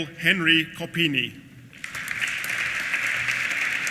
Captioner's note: applause